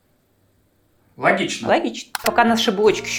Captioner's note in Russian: закадровый голос